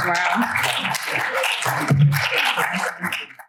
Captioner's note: applause